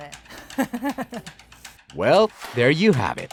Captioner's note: chuckling